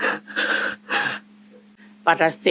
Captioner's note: crying